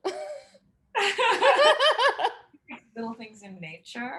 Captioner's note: both chuckling